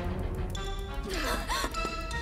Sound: gasps

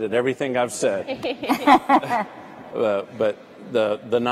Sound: all laugh

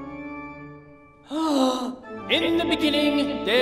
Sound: gasps

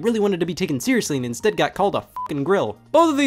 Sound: beep

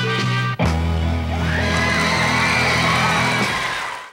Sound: audience cheering

